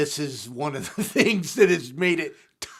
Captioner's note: laughs